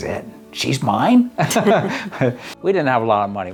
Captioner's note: laughs